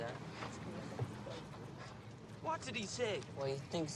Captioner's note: whispers to krotashinsky